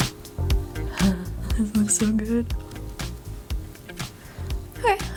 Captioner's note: giggles